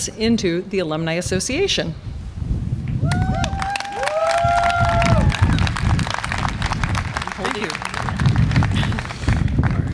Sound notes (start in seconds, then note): 3.2 audience applause and cheer